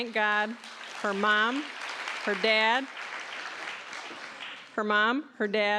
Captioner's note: applause